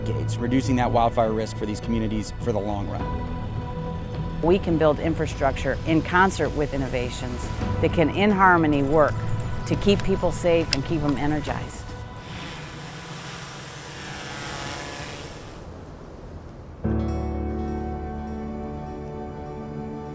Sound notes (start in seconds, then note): 12.1 buzzing drone